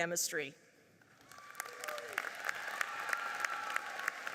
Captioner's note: applauding